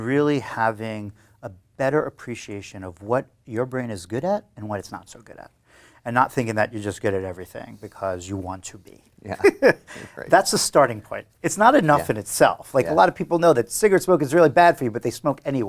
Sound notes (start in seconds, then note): 9.3 laughs